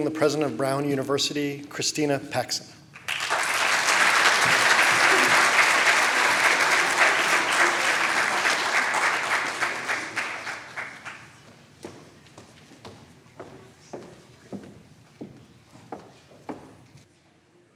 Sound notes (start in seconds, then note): 3.2 applause